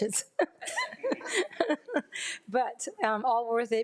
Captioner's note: laughs